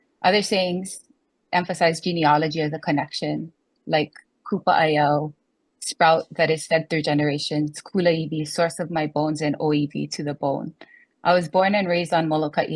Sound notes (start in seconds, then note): 4.2 speaks foreign language; 8.2 speaks foreign language